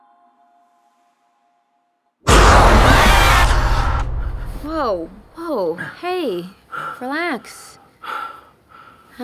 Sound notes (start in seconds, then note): 2.2 roaring; 2.3 screaming; 7.8 breathing